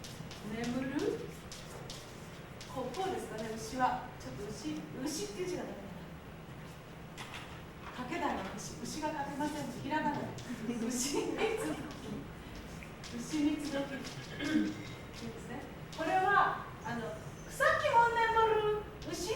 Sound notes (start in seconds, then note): 0.0 speaking Japanes; 2.6 speaking Japanes